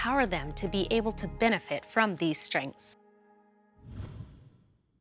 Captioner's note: slight swoosh sound